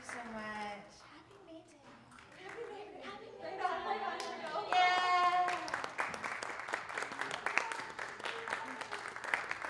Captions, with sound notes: Thank you so much. (indistinct conversation) (audience applauding)